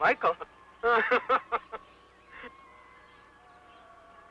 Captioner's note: laughing